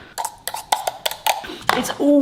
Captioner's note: scraping